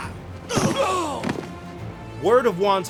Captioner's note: grunting